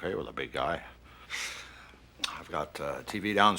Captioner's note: chuckles